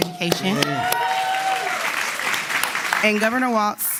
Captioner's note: applause